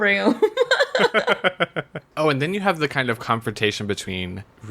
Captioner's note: laughs